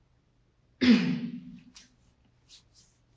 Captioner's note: clear her throat